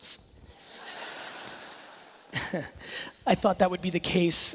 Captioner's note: laughing